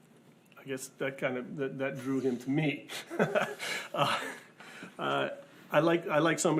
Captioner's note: laughs